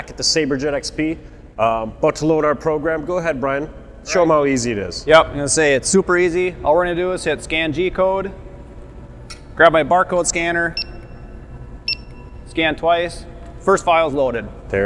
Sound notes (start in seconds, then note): 10.0 scanner beeps